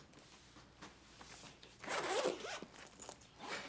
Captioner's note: unzips